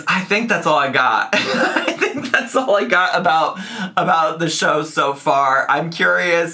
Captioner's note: laughs